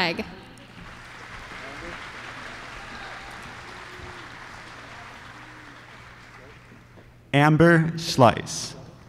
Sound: applause

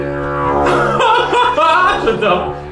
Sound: laughes

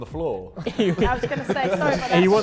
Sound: Sidemen laughing

